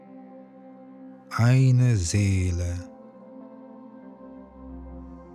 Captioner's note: german